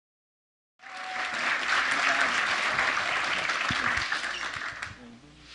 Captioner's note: clapping